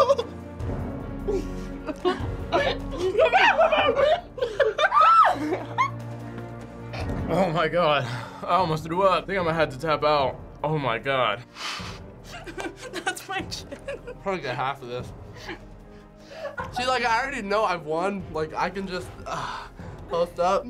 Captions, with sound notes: - (squealing) - Oh my God. I almost threw up. Think I'm gonna have to tap out. Oh my God. - That's my chin. - Probably get half of this. See, I already know I've won. I could just post up.